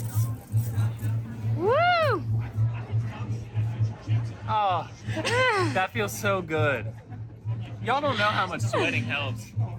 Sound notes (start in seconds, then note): 1.8 cheers